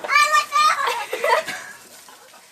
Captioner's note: laughing